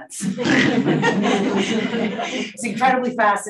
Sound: audience laughing

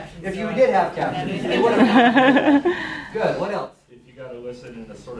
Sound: laughter

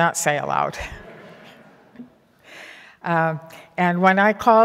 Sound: laughing

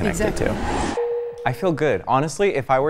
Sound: techno bleeping

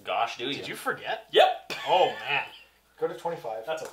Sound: laughs

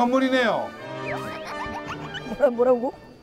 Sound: haha

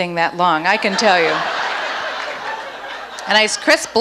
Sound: audience laughs

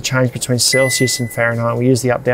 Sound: fridge beeps

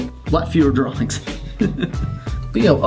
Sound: laughing

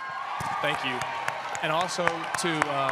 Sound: cheering

